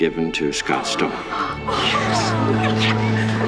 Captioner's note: people gasp